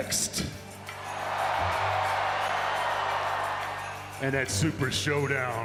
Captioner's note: audience cheers and applauds